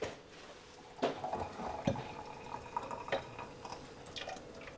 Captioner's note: water pouring